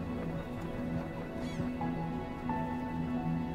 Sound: seagulls squawking

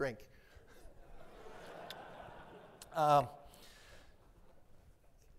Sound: audience laughs

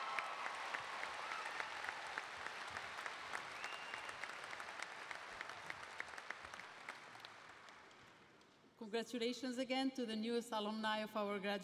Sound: cheers and applause

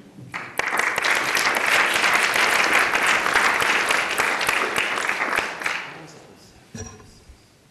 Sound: applause

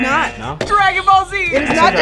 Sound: buzzer rings

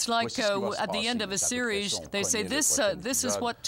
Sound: speaking French

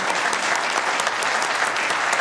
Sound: applause

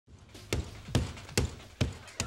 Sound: hammer pounding

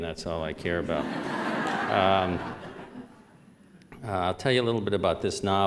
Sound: laughter

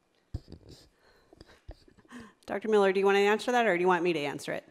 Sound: laughs

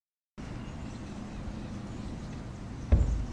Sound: birds chirp

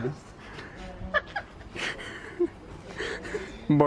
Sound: laughter

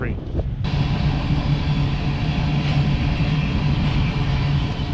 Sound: train rumbles

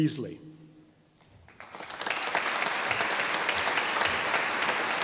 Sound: audience applauding

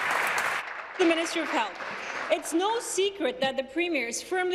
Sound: applause

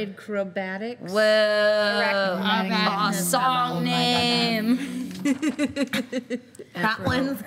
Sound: group chattering

